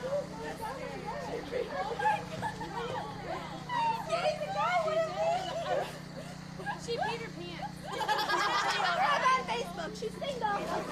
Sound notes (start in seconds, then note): 7.8 all laugh; 10.7 giggling